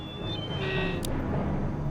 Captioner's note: alarm